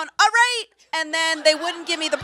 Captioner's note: audience laughs